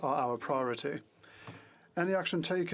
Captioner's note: speaking in French